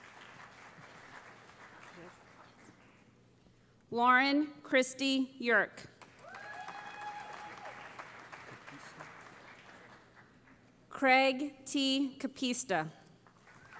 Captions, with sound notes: [ Applause ] Lauren Kristi Yerk [ Cheering ] Craig T. Capista